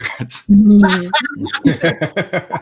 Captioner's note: laughter